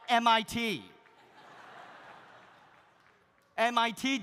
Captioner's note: audience laughs